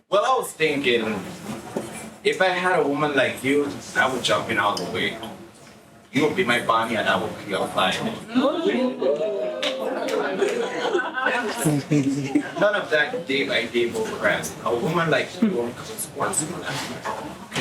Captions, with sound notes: Well, I was thinking, if I had a woman like you, I would jump in all the way. You would be my Bonnie and I would be your client. (crowd oohs) None of that day by day bull crap. A woman like you won't be close once in a while.